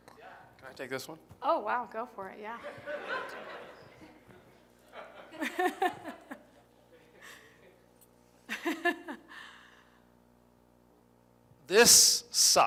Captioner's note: laughter